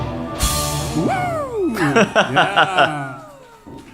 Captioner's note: laughter